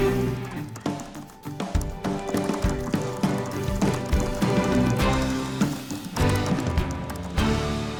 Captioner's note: typing